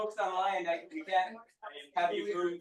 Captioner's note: people chattering distantly